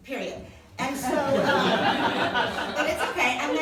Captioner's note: laughing